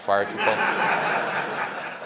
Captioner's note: laughter